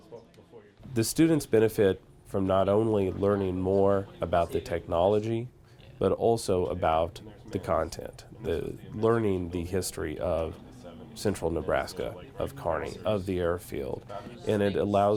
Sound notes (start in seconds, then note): none